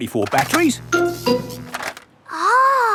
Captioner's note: buzzing